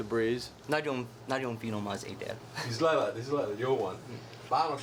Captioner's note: speaking foreign language